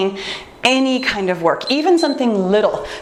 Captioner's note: timer beeps